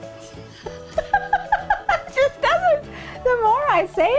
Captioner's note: laughing